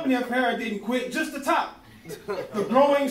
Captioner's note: laughing